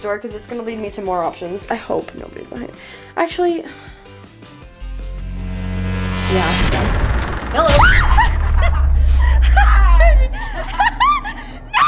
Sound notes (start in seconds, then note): 4.5 suspenseful music; 6.9 door creaking; 6.9 suspenseful music; 8.6 screams; 11.2 laughs